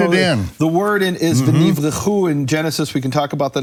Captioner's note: speaking in foreign language